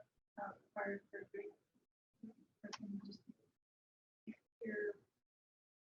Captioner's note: audio drops